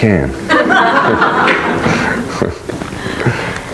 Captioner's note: laughing